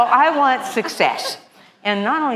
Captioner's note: laughter